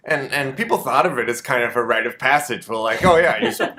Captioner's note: audience laughter